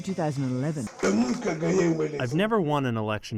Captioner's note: through translator